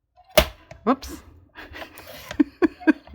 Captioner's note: laughs